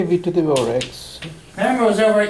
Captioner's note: voiceover